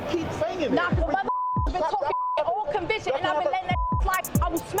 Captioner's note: beeps